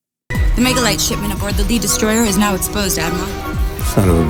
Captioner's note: movie dialogue plays